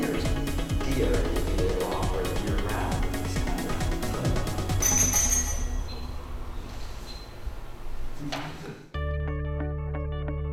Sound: bell Ringing

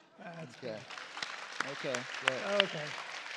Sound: applause

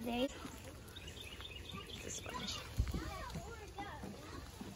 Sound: birds chirping

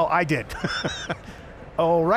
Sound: laughs

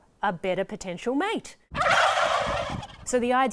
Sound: gobble

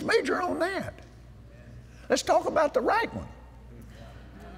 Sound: audience Agrees

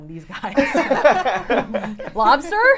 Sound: all laughing

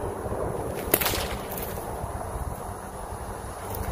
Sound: whip cracks

